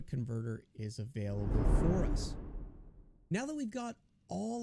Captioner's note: air whooshes